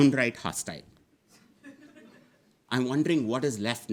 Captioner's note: audience laughing